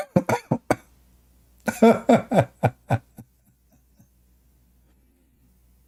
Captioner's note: Ketawa